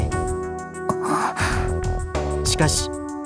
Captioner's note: gasp